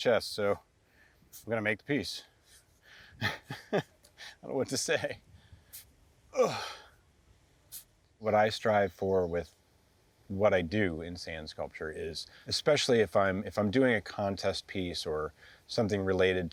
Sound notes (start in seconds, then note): 3.2 chuckles; 6.3 grunts